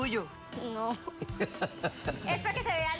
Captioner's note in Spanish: risas